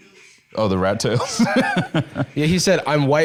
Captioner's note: laughs